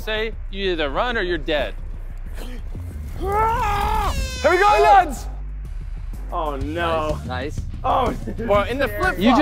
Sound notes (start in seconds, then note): 3.1 Tobi yelling; 4.0 horn blowing